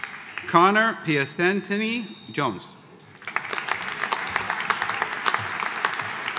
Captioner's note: audience applauding